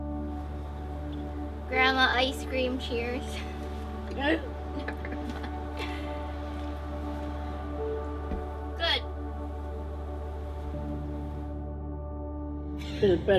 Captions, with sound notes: - Grandma, ice cream cheers. - Good. (chuckling) - Good.